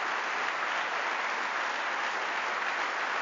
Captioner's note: applause